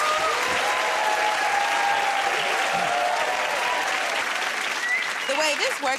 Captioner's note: cheers and applause